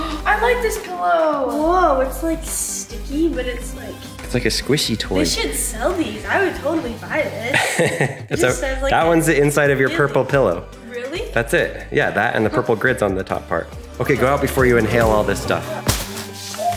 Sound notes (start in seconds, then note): 7.5 laughing